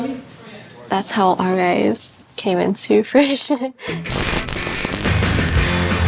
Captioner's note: lively music; laughs